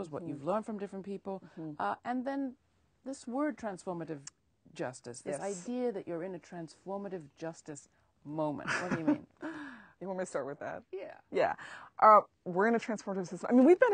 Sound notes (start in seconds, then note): 9.2 laughs